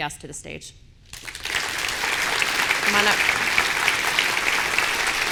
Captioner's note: audience applauding